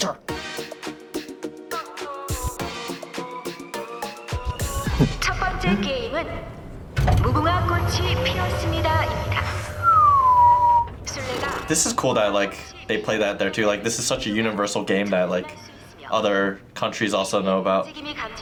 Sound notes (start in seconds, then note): 0.0 upbeat music; 9.6 blows raspberry; 9.6 whistles